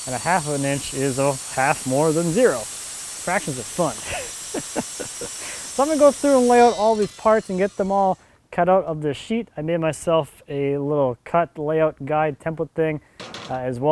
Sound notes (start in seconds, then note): 4.5 laughs